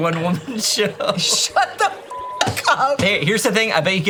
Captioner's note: beep